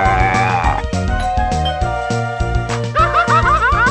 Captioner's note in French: ding dong